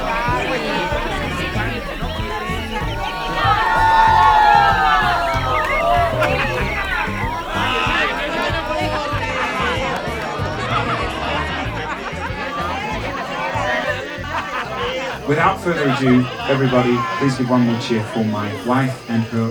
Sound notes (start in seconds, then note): 4.1 guests cheering